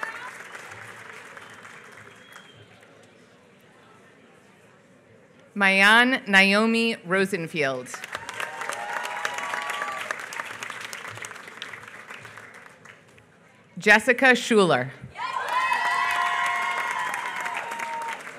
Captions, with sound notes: Maayan Naomi Rosenfield. [APPLAUSE] Jessica Schueler. [APPLAUSE]